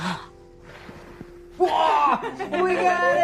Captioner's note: blowing